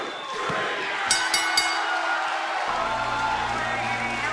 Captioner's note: bell ringing